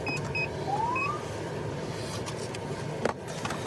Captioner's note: siren chirps